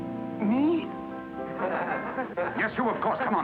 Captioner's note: class laughs